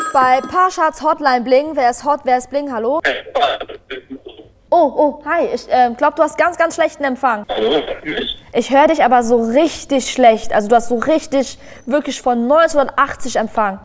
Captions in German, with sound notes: Bei Parshads Hotline Bling. Wer ist hot? Wer ist bling? Hallo? "Hey, hi." (Rauschende Verbindung) Oh. Oh, hi. Ich glaub, du hast ganz, ganz schlechten Empfang. (rauschend:) "Hörst du mich?" Ich hör dich, aber so richtig schlecht. Also, du hast so richtig ... wirklich von 1980 Empfang.